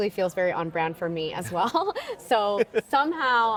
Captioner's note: laughing